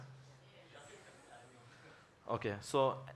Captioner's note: faintly speaking